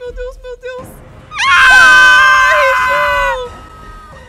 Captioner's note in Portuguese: grita